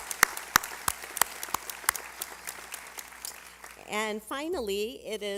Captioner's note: applause